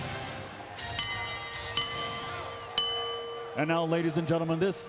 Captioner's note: bell dinging